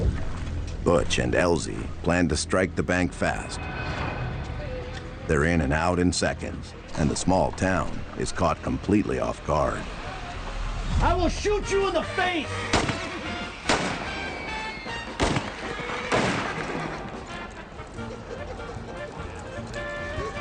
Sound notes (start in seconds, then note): 12.6 guns firing; 17.2 upbeat music